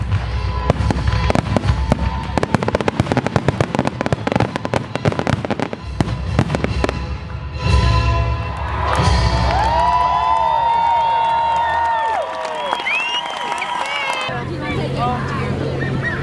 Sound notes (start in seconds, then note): 10.2 applause and cheers from the crowd